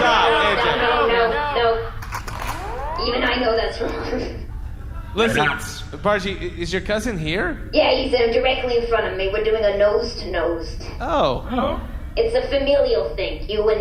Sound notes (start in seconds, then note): 2.4 blaster decharging noises